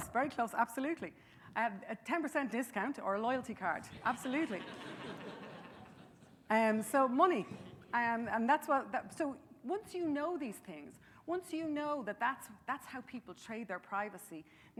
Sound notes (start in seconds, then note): 4.2 audience laughing